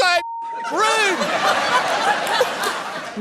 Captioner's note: laughter